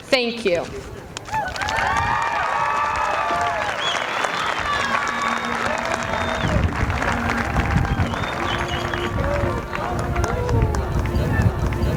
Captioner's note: applause